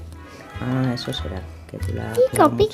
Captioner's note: whispering